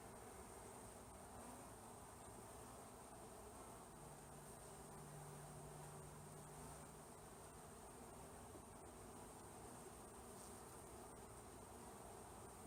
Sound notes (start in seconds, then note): none